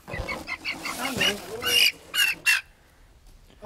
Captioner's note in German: Lautes Fiepen